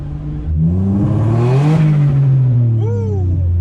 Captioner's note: car engine revving